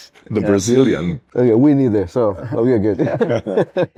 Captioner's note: risos